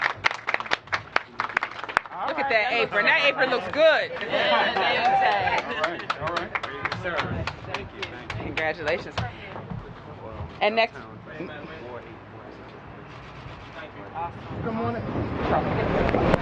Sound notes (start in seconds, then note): 6.7 applause